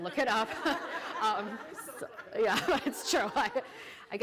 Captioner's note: laughter